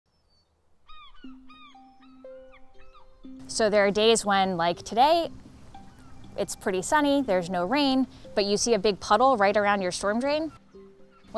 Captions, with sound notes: [seagulls squawking] - So there are days when, like today it's pretty sunny, there's no rain, but you see a big puddle right around your storm drain.